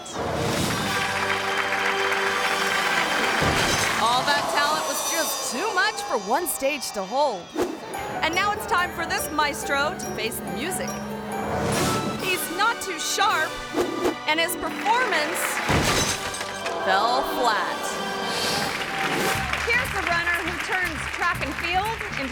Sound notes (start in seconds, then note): 0.2 orchestral music; 0.6 crowd clapping; 3.3 conductor thuds; 3.3 crowd clamoring; 11.5 screen whooshes; 15.6 conductor thuds